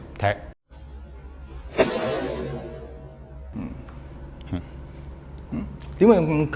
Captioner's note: punch